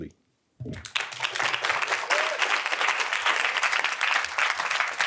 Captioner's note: audience applauding